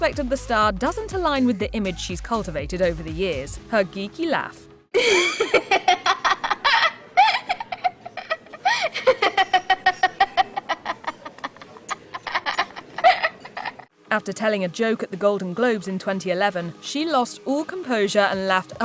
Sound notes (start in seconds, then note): 5.0 laughing